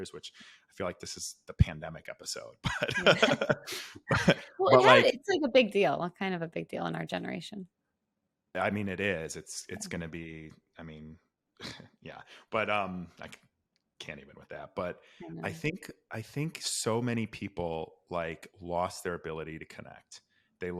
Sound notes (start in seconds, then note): 2.6 laughing; 12.1 sighs